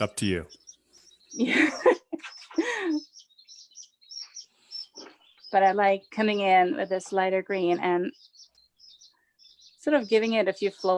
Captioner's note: laughs